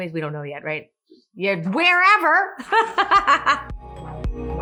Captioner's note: laughs; upbeat music